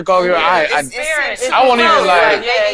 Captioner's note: group chatting